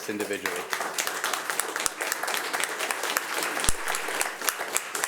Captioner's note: audience applauding